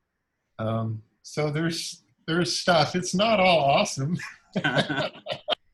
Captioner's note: laughs